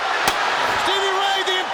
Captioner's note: chair slaps